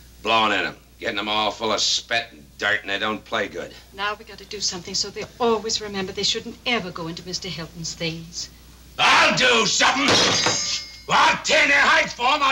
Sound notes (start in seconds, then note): 10.3 hand thudding